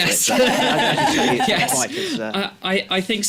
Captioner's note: laughter